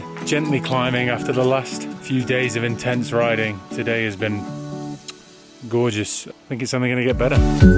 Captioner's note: kiss